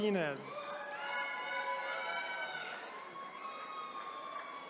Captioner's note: attendees cheering